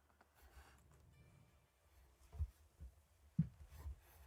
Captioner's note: none